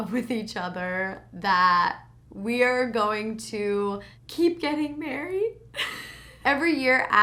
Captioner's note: laughs